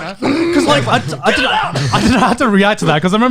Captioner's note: groaning